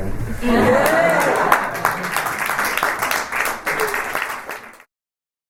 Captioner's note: applause and cheering